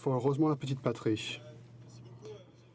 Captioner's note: speaking French